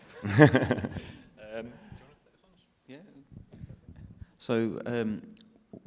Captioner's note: laughter